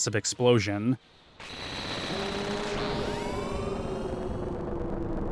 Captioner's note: screeching